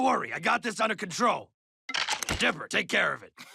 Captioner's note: clanging, yelling